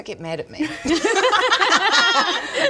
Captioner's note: uh-oh laughter